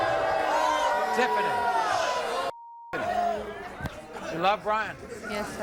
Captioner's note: beep